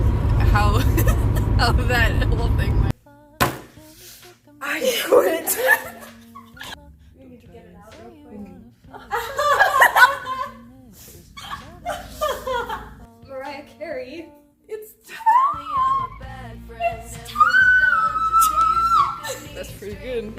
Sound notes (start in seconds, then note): 0.8 laughter; 4.8 laughter; 8.9 fake laughter; 9.7 real laughter